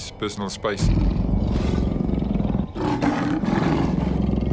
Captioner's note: growling